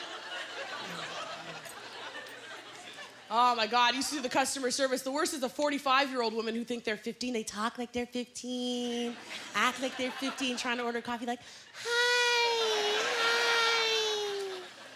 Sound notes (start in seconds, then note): 10.2 high-pitched voice